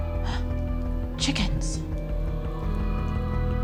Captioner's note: gasps